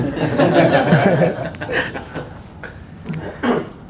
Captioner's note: all laugh